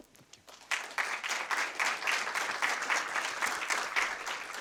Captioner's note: audience applauding